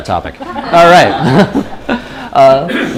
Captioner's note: laughter